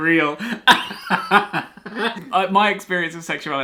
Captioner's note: laughs